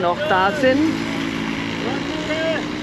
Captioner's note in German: Stimmengewirr